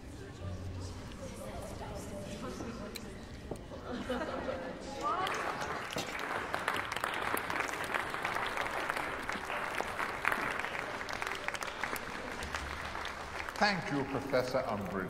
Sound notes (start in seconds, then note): 4.8 people clapping